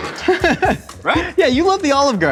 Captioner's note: laughing